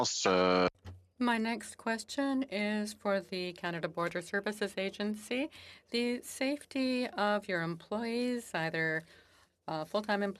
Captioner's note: speaking French